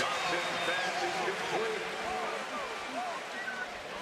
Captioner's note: pa announcement